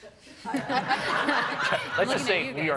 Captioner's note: group laughs